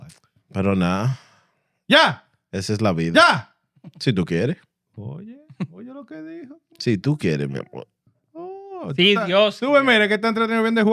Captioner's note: speaking In Foreign Language